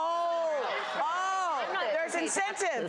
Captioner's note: audience laughs